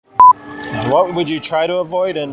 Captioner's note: beeping